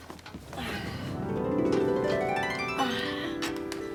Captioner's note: exhaling heavily